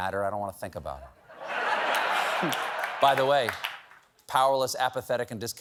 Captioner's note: laughter